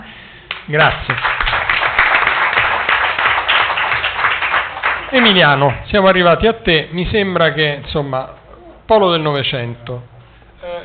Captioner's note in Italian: Applauso